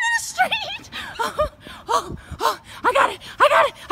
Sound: huffing and puffing

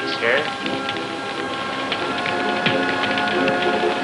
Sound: fire crackling; dramatic music

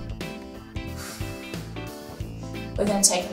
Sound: exhales

